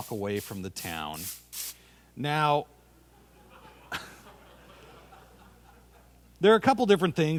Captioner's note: laughter